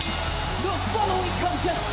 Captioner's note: bell ringing